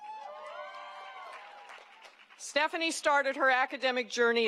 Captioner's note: applause